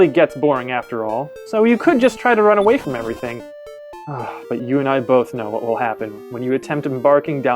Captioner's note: sigh